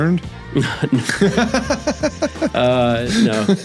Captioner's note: laughs